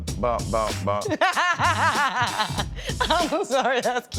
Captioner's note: laughing